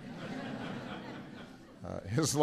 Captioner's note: laughter